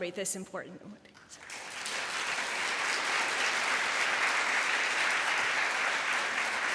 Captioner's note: applause